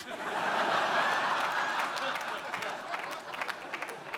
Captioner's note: audience laughing